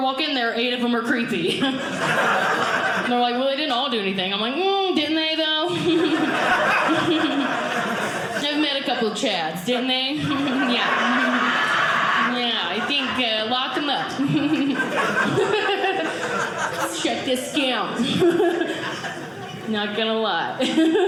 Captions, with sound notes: in there, eight of them are creepy. And they're like, "well, "they didn't all do anything." I'm like, mm, didn't they, though? I've met a couple Chads, didn't they? Yeah. Yeah, I think lock them up. (audience laughing) Let's shut this down. Not going to lie.